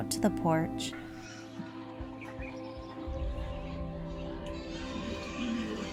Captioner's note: morning sounds of birds and roosters